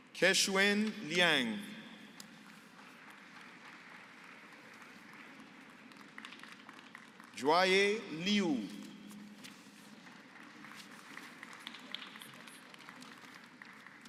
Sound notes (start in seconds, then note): 2.8 applause; 9.6 applause